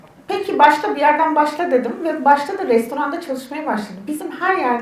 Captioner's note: speaks in Turkish